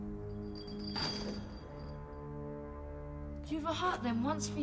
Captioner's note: chain rattles once